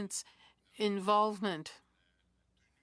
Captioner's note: speaking French